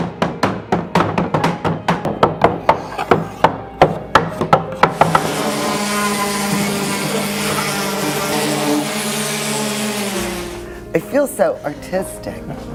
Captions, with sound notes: (buzzing from sanding tools) - I feel so artistic.